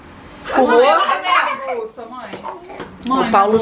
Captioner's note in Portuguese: crianças riem